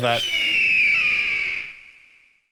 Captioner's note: eagle screeching